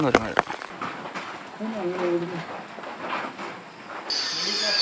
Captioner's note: animal sounds